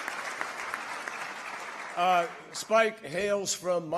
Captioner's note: applause